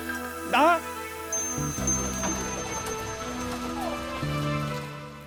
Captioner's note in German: Das Geräusch der Regentropfen aus alten Zeiten